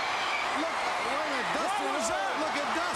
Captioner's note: crowd cheering